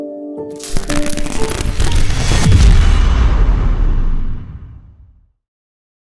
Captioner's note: electricity crackling; dramatic thud